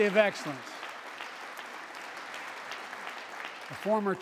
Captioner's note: applause